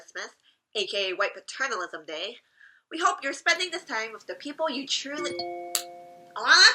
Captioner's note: phone goes off